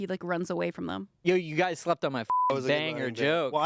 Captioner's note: beep